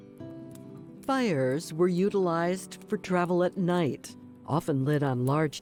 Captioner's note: fire crackling